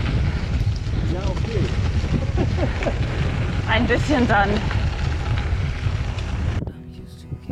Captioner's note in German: lacht